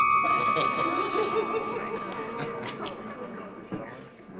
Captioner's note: weird droning